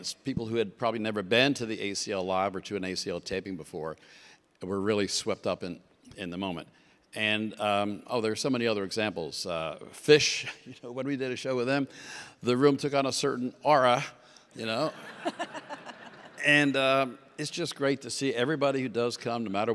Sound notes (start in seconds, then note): 14.9 audience laughs; 15.0 laughs